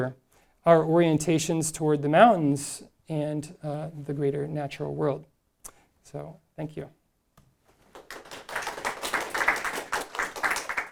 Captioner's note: audience applauding